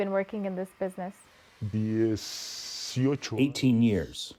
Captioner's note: through translator